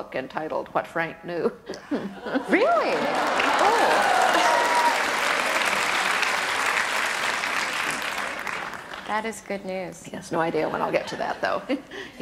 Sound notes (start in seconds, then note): 2.8 audience applause